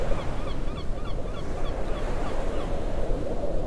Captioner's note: birds call